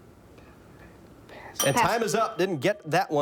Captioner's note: bell dings